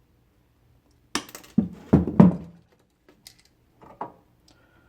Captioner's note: wire snapping